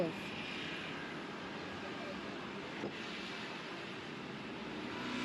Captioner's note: airplane engine roaring